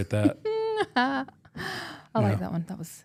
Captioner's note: laughs